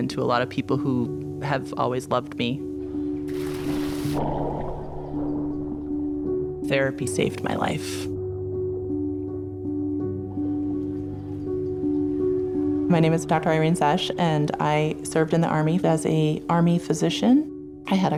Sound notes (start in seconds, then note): 3.2 water splashing and bubbling; 9.5 gentle music